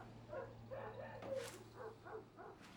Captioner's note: dog barking outside